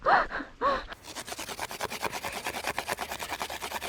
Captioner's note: sticks rubbing together